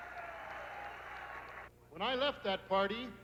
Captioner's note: crowd cheering